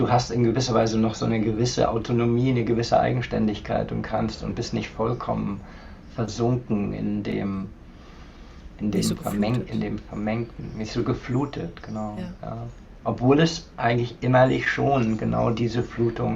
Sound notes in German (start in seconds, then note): 9.0 räuspern